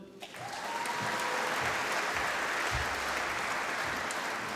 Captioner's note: applause